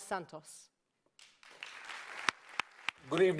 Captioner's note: applause